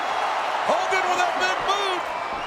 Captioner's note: Hogan claps; crowd cheering